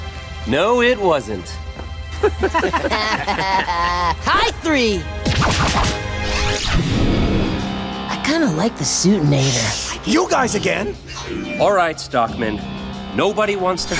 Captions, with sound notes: No, it wasn't. [laughing] High three! I kinda liked "the Suitinator". Alright, Stockman. Nobody wants to hurt you.